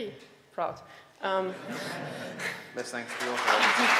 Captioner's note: audience laughing